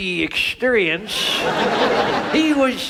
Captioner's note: audience laughs